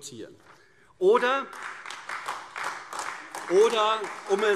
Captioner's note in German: Beifall AfD